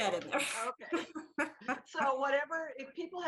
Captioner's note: laughs